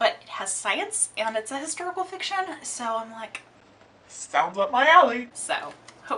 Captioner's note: lower pitched voice